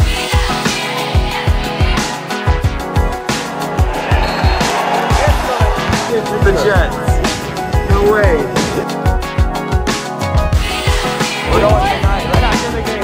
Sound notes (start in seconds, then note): 0.1 upbeat music; 3.2 crowd cheering